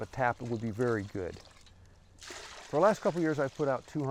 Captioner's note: sap pouring